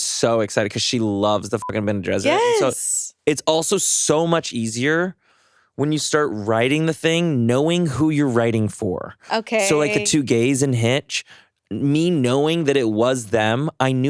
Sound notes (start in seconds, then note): 1.7 beeps